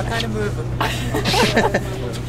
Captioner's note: laughter